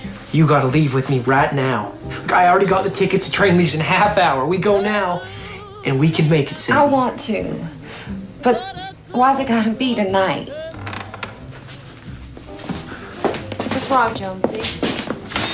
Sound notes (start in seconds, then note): 10.5 creaking